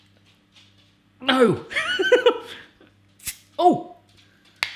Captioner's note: giggles